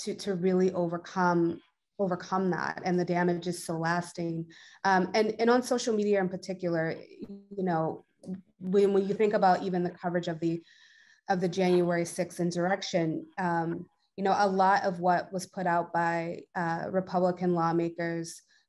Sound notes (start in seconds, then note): none